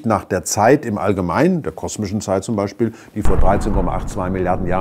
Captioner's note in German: Explosion